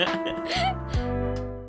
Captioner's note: laughs